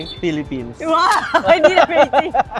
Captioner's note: laughs